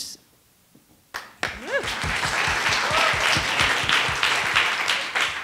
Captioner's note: attendees applauding